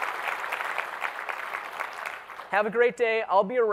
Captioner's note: applause